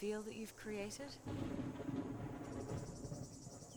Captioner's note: thunder